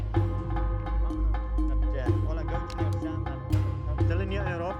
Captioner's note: foreign spoken audio